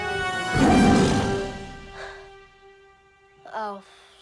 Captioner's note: tiger roaring